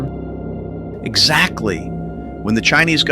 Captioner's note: excited